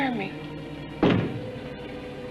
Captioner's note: knocks